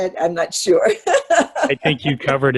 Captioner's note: laughs